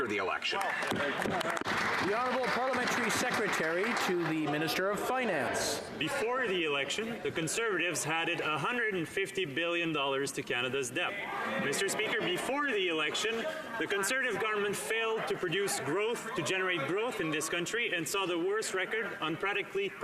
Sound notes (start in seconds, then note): 3.5 some Applause